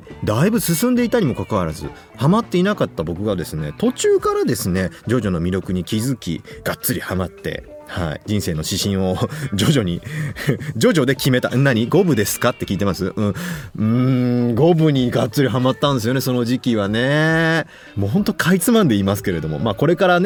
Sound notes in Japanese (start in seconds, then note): 9.3 笑い